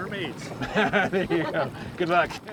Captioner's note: laughter